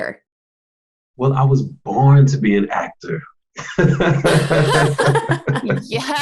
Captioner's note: laughs